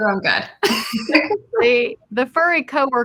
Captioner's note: all laughing